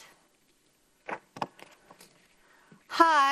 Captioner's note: paper rustles